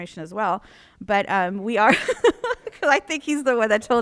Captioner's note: laughs